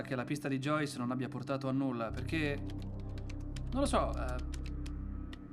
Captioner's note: none